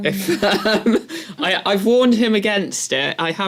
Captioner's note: laugh